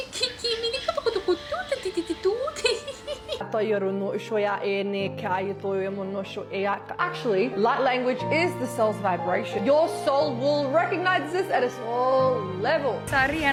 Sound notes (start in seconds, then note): 0.0 a high-pitched, stuttered vocalization mixed with giggles; 3.6 random glossolalia vocalizations